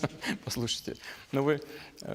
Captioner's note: laughter